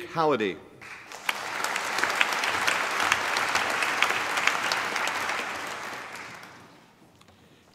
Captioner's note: applause